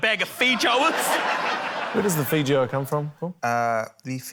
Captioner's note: laughter